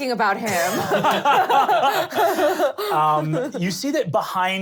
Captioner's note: laughing